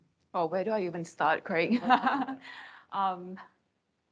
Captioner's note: chuckles